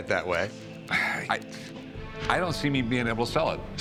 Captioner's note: sighs